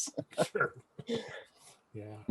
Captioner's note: laughter